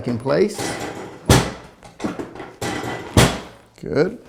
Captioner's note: metal clanks